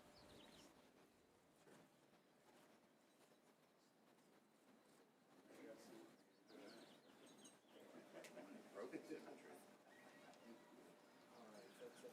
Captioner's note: cheers and applause